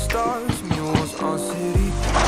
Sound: knocks

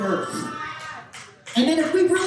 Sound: audience cheering

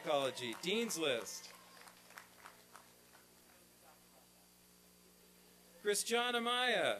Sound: applause and cheering

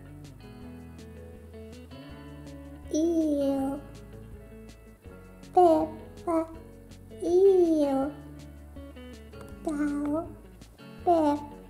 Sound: baby babbling

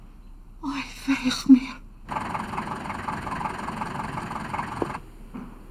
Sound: Sarah speaks foreign language

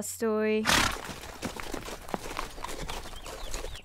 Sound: neighs and footsteps

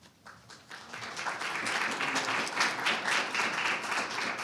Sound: audience applauding

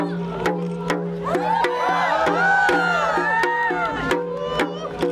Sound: audience cheers

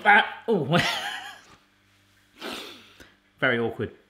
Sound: laughs

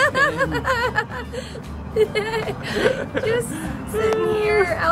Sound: laughing

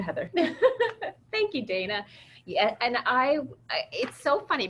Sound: laughs

